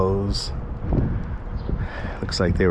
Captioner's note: birds chirping